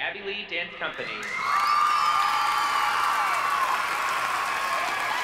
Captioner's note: cheers and applause